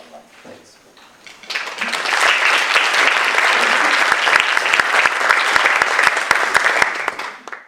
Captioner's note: Głośne oklaski